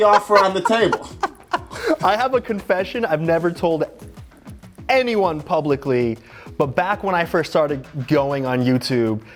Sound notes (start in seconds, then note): 0.0 laughing